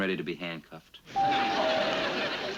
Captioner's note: doorbell rings